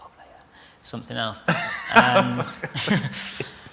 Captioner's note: laughter